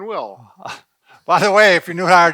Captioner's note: chuckles